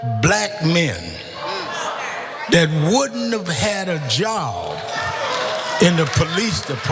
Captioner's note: applause